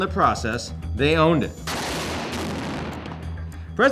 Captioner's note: artillery booms